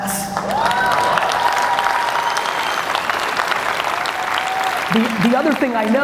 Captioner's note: audience cheers and applauds